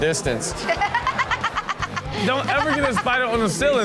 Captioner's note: host and audience laughs